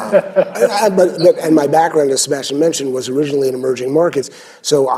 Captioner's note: laughter